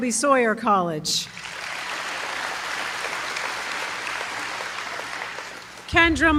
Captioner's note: applause